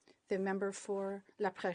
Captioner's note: speaking in French